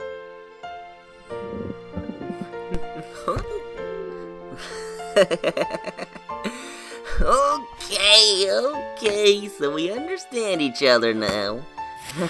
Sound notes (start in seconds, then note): 1.4 chuckles lightly; 5.7 chuckles